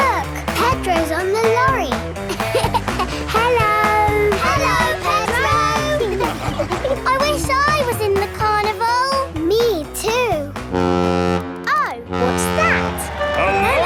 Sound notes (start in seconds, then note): 2.1 laughing; 12.0 horn bellowing